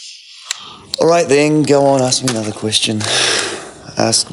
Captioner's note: sighs